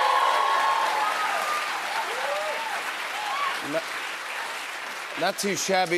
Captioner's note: cheers and applause